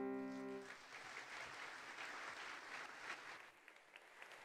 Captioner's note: attendees applauding